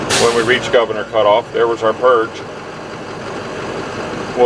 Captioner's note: sound of air escaping